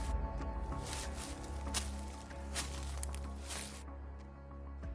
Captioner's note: leaves rustling continues